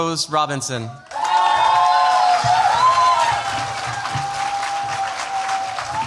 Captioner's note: cheers, applause